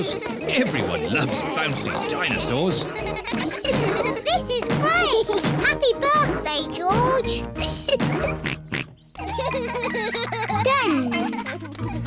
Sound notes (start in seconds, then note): 7.4 laughs; 7.9 oinks; 9.1 both laughing